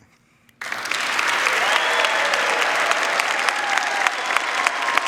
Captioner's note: audience applauding